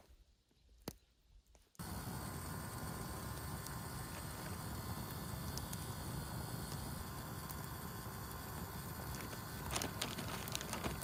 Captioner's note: electrical stove fire noises